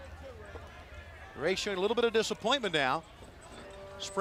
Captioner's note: crowd chatter